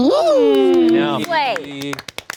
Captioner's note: everyone clapping